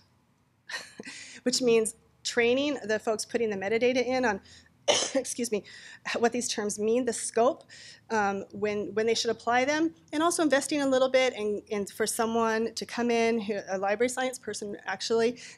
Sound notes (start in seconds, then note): 0.8 laughing